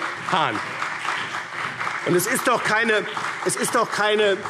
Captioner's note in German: Beifall BÜNDNIS 90/DIE GRÜNEN und CDU